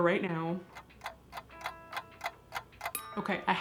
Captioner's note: clock ticking